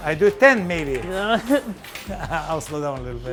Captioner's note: laughter